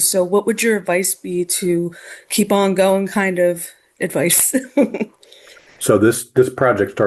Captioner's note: laughs